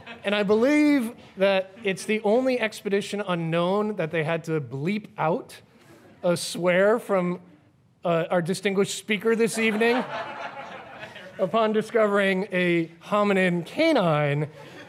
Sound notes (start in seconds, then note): 9.6 audience chuckles